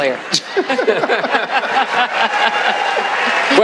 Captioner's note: laughter